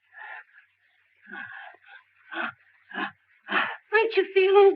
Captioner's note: breathing deeply